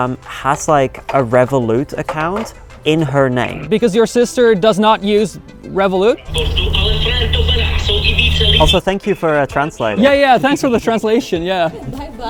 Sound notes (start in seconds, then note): 6.6 brother-in-law speaking in foreign language